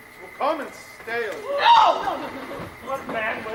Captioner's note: Beatrice angrily cries out